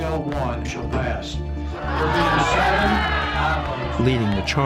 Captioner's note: shouting